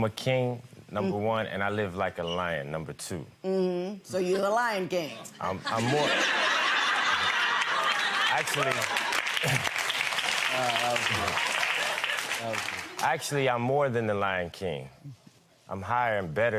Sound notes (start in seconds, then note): 5.6 audience laughter; 9.0 audience applause